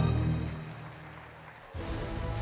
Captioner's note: applause; theme music playing